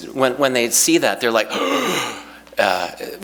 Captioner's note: breathes in sharply